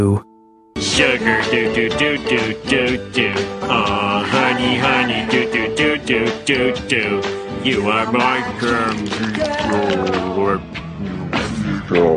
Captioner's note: record melt sfx